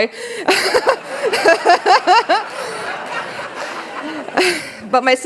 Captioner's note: laughter